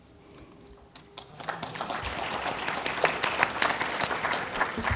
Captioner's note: applause